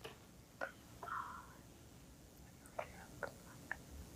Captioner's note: whispering